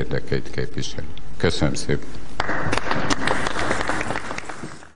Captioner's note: applause